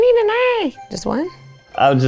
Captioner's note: mimics puppet voice